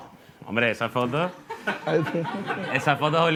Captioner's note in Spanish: Risas